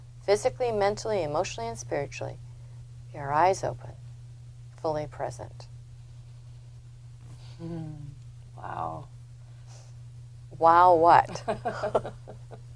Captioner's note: laughs